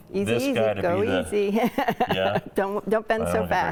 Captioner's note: laughing